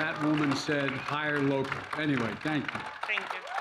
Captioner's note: applause